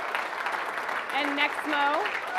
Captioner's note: audience applauding